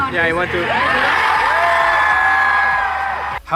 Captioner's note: crowd cheering